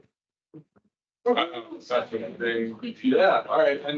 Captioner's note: attendees chattering